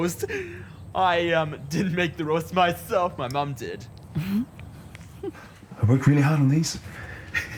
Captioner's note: laughter; laughter; laughter